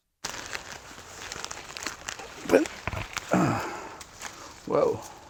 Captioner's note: grunt